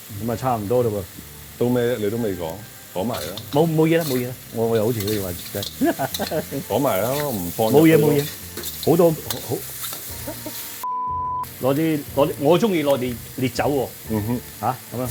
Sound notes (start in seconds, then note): 10.2 laughs